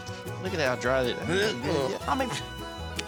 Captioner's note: dry heaving